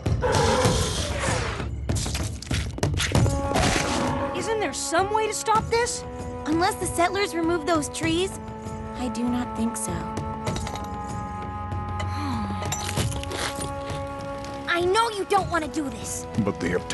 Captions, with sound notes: Isn't there some way to stop this? Unless the settlers remove those trees, I do not think so. [ Sighs ] [ Munching ] I know you don't want to do this.